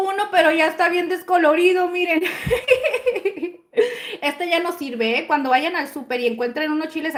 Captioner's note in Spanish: risas